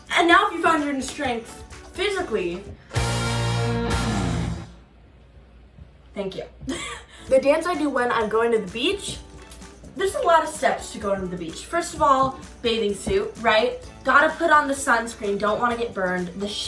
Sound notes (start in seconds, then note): 2.8 dramatic guitar music; 6.7 chuckles